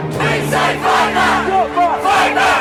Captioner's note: chant